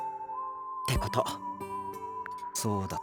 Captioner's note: whisper